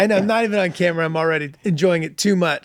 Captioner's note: laughs